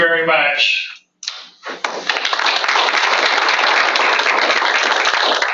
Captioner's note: applause